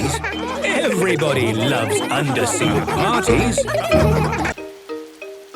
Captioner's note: laughter